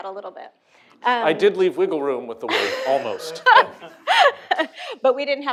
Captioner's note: laughter